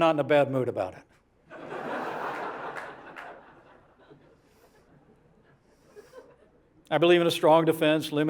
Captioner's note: laughter